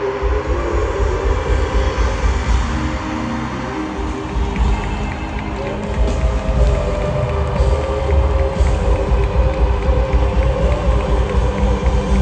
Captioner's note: crowd cheering